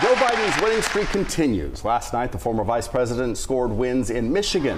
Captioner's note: applause